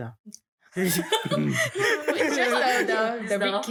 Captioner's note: laughs